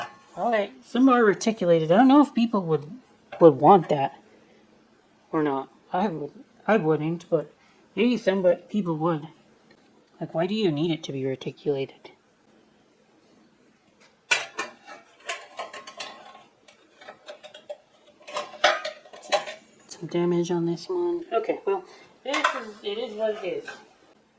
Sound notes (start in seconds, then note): 0.0 trays scrape on each other; 14.3 clanging metal